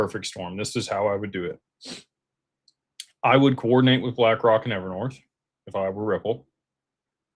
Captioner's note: snorts